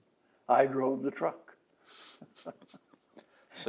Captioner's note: laughs